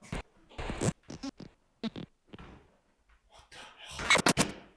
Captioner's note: static crackling